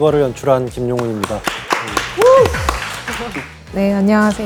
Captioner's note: cheering